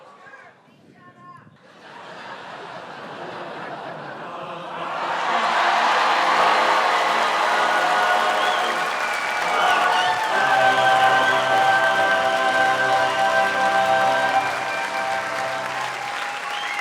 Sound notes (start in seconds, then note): 1.6 laughter; 5.7 audience cheers wildly